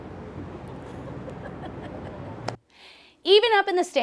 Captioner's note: crew laughs